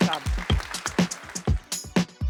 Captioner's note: applause